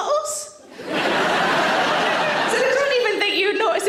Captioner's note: audience laughter